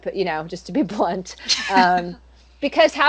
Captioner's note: laughter